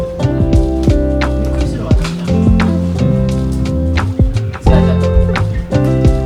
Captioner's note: laughs